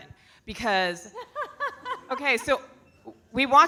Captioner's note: laughing